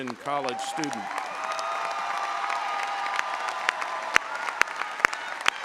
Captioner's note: audience applauding and cheering